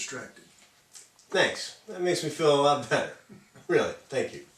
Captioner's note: sarcastically